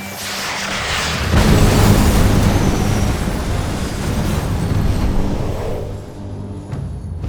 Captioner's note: rocket booming; tense music